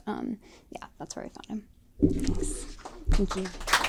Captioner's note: applause